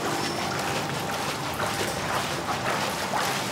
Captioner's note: regular splashing of water